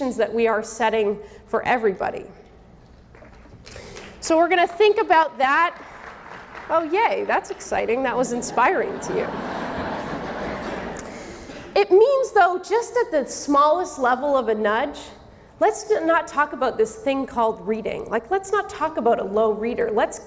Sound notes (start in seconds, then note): 2.8 audience clapping; 8.3 audience laughing